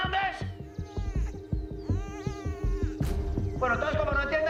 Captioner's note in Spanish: Gimoteos del bebé